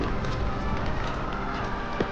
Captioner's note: villagers yelling